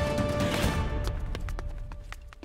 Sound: footsteps

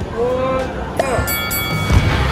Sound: bell rings; upbeat music

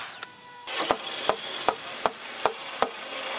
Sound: knocking

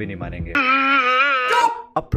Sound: cries desperately

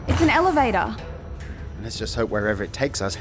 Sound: elevator rises

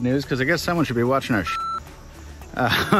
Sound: beep

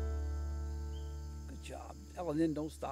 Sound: birds chirping in time to the music

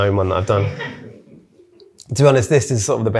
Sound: audience laughing

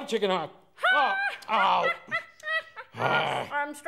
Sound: groans

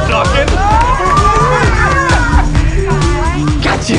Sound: laughter

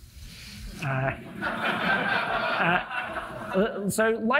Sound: audience laughing

